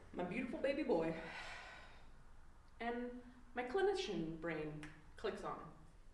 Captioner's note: snap